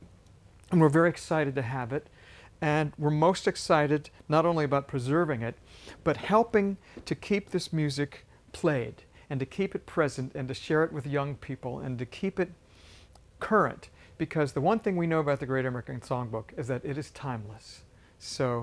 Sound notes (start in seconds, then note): none